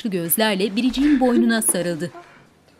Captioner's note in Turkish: Ağlama sesi